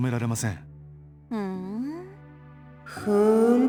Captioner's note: acknowledging hum